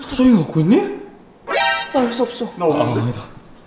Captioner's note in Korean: 빰, 효과음